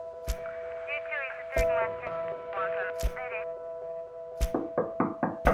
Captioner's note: intense Music; sounds of police radio chatter; hand knocking on a door